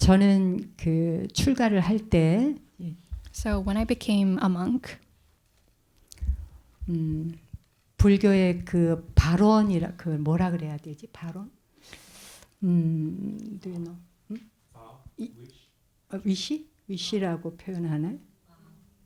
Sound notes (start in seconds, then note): 0.6 speaking in Korean; 8.5 and translator speaking in Korean